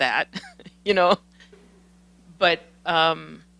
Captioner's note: laughs